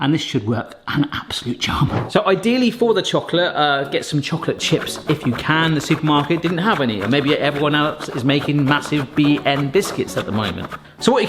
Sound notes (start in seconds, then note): 5.4 chocolate rasping